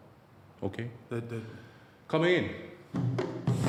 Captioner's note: Dave stutters